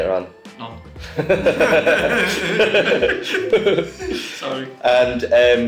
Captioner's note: all laughing